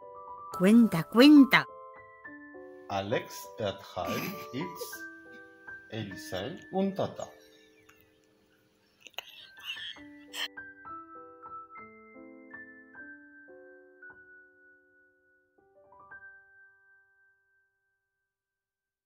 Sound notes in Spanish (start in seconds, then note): 9.3 risas contenidas